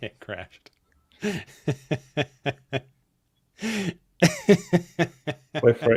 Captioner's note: laughs